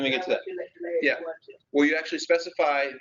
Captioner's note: woman talking on the phone